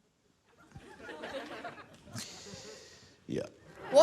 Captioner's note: laughter